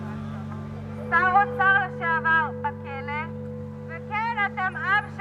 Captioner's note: woman speaking in Hebrew